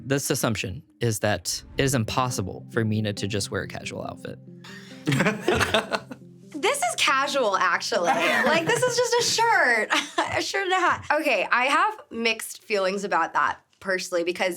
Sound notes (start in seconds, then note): 4.7 chuckling; 5.2 pensive music; 8.0 laughing